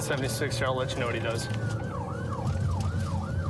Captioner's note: siren blaring